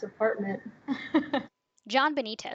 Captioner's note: laughter